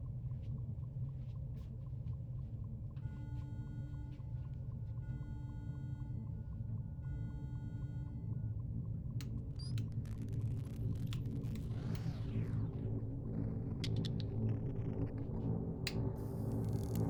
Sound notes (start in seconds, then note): 9.9 electricity crackling; 13.7 deep pulsating music